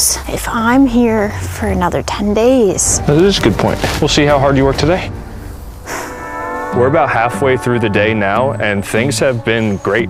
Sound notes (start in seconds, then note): 5.3 sighs